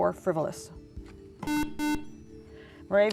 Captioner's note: beeping